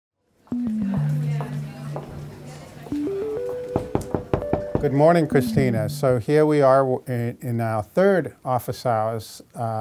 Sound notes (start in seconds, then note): 0.5 gentle electronic music; 3.7 knocks on door